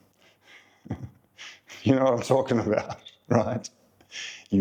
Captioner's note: laugh